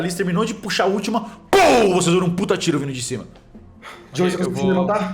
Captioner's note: pow